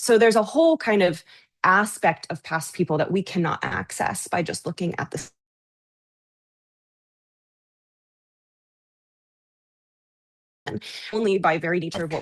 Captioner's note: audio cuts out